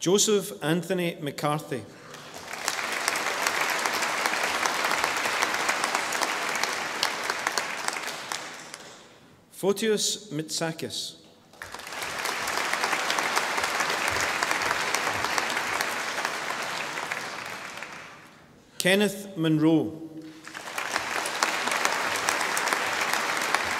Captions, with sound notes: Joseph Anthony McCarthy. (audience applauding) Fotios Mitsakis. (audience applauding) Kenneth Munro. (audience applauding)